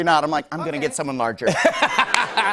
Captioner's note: laughter